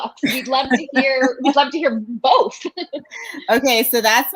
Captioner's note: laughs